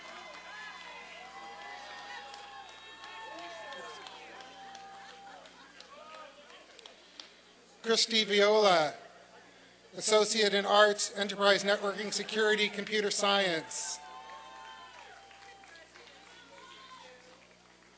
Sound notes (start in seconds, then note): 0.0 applause and cheering